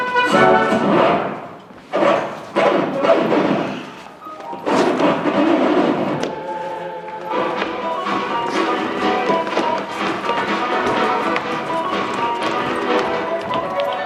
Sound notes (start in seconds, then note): 1.7 record skips; 7.9 upbeat swing music plays